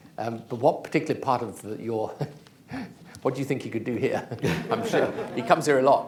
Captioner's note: laughter; laughs